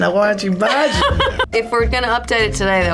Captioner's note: laughs